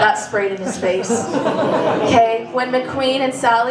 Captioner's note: laughter